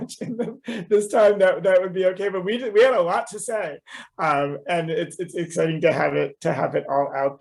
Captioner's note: laughter